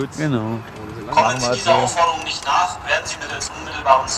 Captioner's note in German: Lautsprecher-Durchsage wird wiederholt